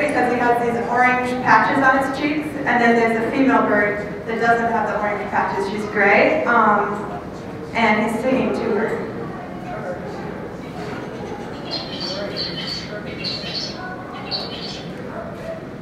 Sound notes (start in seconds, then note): 10.8 bird sounds